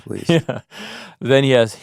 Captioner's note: chuckles